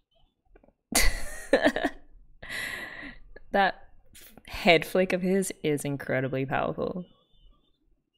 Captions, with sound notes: [laughs] That head flick of his is incredibly powerful.